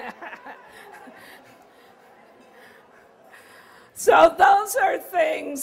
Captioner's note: laughter